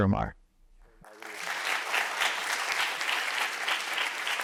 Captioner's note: audience clapping